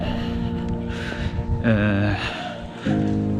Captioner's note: sigh